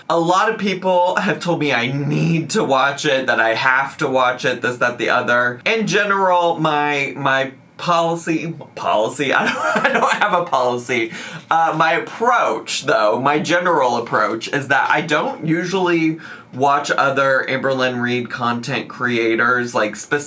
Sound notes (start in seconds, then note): 9.4 laughs